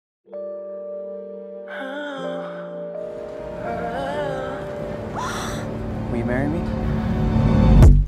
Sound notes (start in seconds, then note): 5.2 woman gasps; 6.9 music crescendos